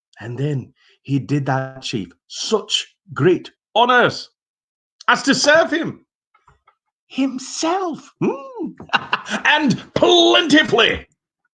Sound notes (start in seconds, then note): 8.3 laughing